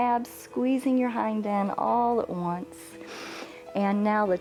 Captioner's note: inhales